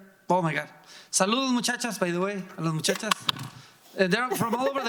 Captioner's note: speaking in foreign language